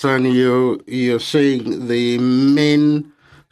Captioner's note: speaking French